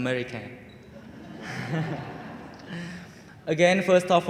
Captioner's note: audience laughing